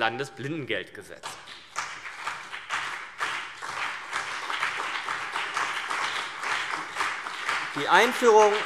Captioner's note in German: Beifall CDU und BÜNDNIS 90/DIE GRÜNEN